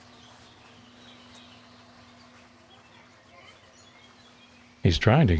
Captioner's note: feathers ruffling